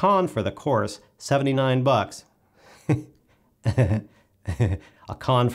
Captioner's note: starts laughing